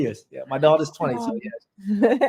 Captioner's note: all laugh